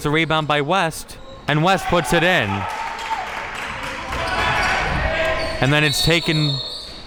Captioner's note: bench players cheering